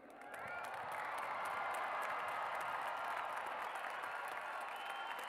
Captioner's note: cheers and applause